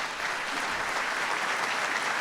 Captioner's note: applause